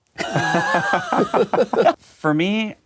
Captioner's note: laughing